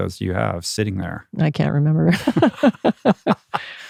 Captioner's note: laughs